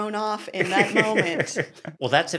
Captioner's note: laughs